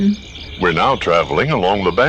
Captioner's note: train noises